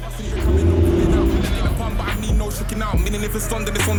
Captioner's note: car revs loudly